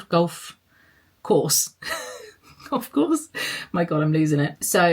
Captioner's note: laughs